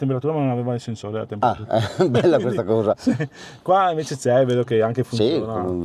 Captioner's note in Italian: risate